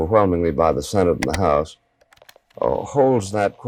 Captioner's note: image clicks